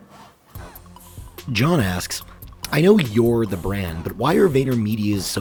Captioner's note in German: Voice-over